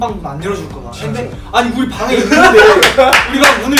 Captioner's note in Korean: 웃음